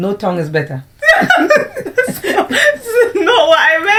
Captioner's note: laughter